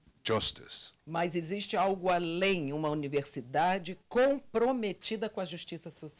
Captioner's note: translator speaking Portuguese